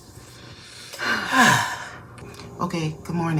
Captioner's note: sigh